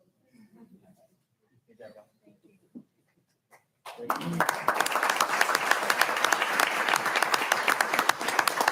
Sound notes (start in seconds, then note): 3.8 audience applauding